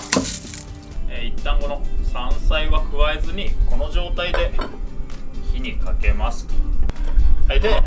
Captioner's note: flame